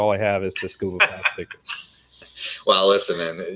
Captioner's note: laughter